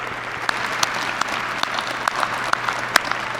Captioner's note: applause